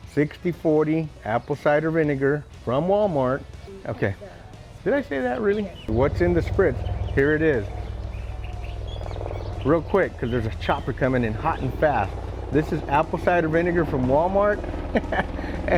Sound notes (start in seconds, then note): 7.8 birds chirping